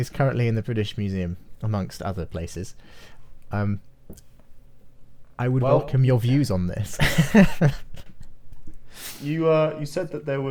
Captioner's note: laughs